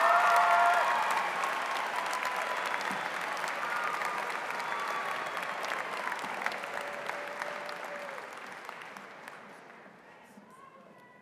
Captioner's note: applause